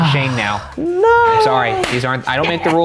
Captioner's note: sighing heavily